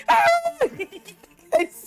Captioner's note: screams